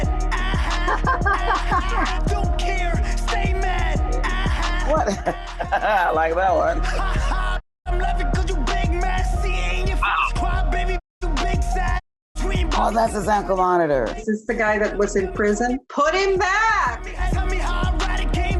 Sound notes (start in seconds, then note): 0.7 laughs; 4.9 chuckles